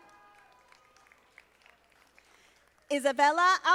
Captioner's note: audience applauding